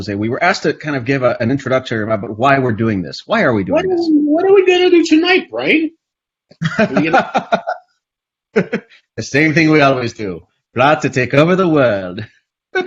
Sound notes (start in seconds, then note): 4.8 stammers; 6.6 laughs